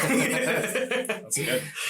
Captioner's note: all laugh